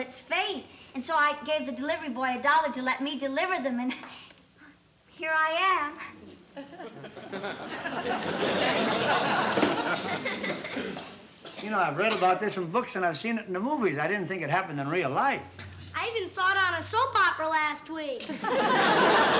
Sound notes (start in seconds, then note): 6.5 laughter